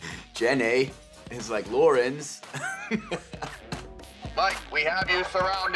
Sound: laughs

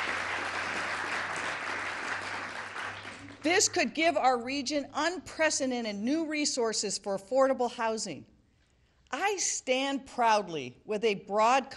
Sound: applause

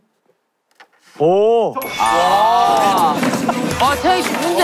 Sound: ding dong

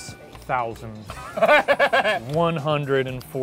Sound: laughing

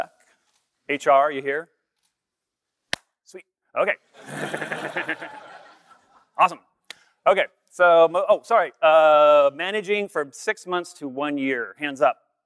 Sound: laughter

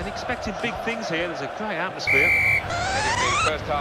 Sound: whistle blows

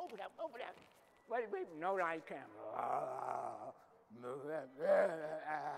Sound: growling

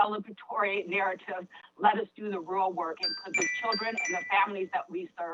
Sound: chime

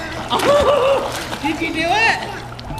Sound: laughs

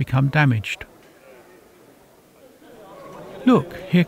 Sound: crowd bustling

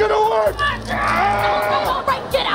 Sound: screaming

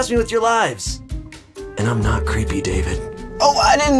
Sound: car voice; evil car voice

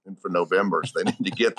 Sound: giggles; interviewer laughs

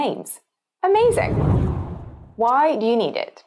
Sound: screen whooshes

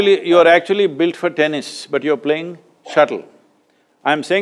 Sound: none

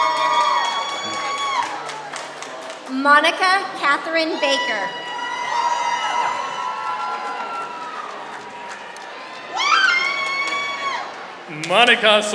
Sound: applause; applause

